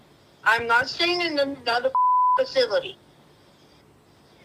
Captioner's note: beep